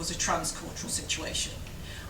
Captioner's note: none